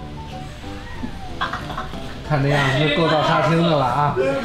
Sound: hahahaha

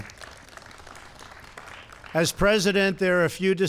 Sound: applause

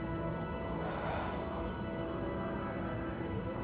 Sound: exhales softly

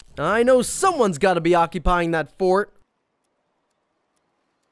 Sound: none

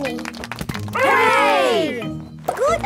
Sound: crowd applauding

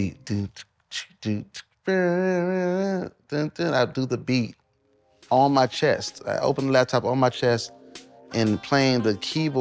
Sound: beatboxing

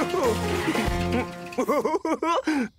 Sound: laughs

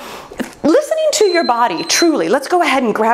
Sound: timer beeps

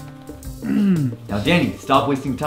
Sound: clears throat

